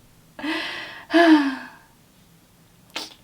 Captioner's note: sigh